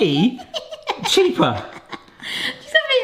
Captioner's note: laughing